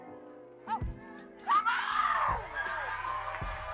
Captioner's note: people cheer; screams; laughs